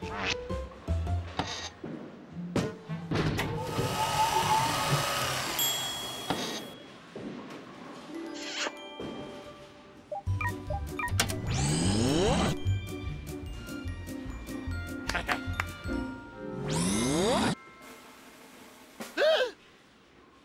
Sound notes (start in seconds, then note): 3.6 whirring; 5.6 ding; 8.4 smooch; 10.9 beeping; 15.0 chuckles; 19.5 gasps